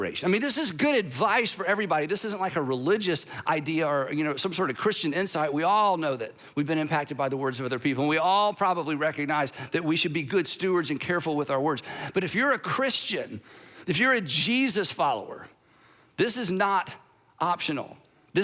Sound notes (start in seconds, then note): none